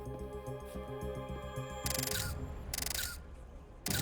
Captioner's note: <i> camera shutter clicking</i>